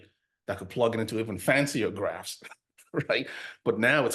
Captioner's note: laughs